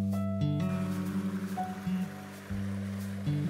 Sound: water gushing; gentle music

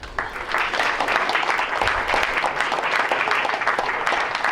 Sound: crowd applauds

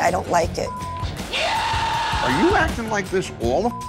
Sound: beep; beep

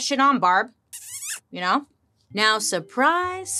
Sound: smooches

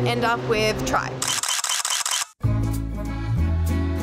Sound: photo shutter clicking

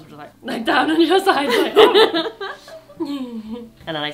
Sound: laughing

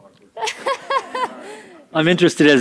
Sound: laughs

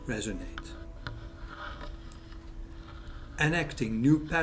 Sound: scraping continues

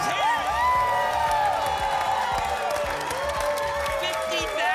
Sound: cheering and screaming

